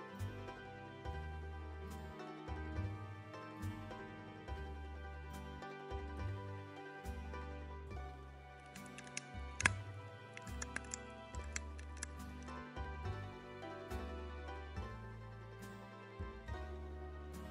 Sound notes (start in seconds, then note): 5.0 calm music; 10.4 cracking ice